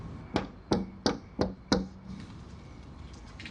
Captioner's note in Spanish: Toques en la puerta